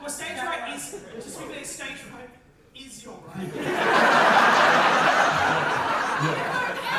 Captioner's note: audience laughter